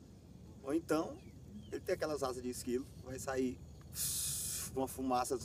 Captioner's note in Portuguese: som de voo